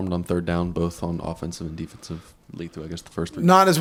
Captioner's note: murmuring